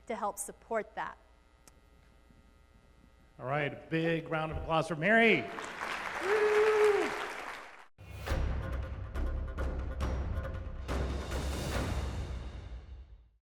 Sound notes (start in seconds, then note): 6.0 host cheers; 8.0 suspenseful music